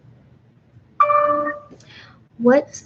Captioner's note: computer dings